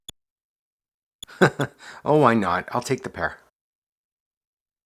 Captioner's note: chuckles